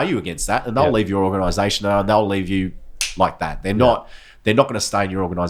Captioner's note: snaps